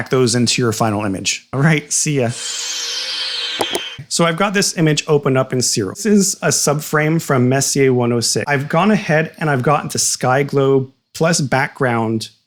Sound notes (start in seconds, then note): 4.7 Magic Time Teleporter Swoosh